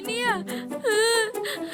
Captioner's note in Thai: เสียงสะอื้น; เสียงร้องไห้